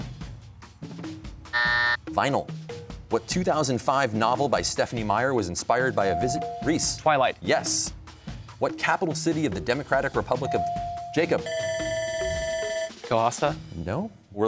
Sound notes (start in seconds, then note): 1.5 buzzer; 10.5 bell ringing